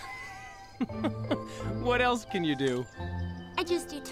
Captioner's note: laughs